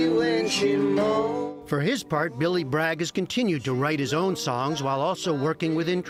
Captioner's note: voice-over